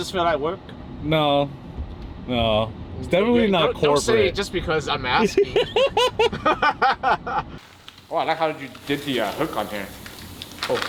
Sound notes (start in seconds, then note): 5.4 laughing